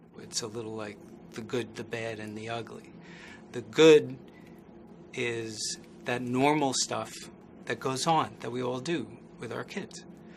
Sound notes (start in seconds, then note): none